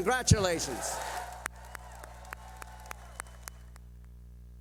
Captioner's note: cheering